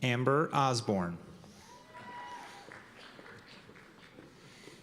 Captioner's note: cheers and applause